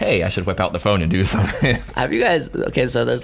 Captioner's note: laughing